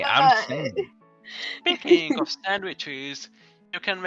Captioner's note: laughs